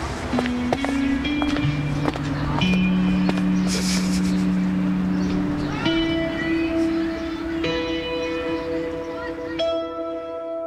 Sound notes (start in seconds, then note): 0.2 soft music; 3.7 Ingrid laughs